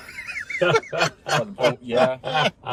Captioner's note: group laughs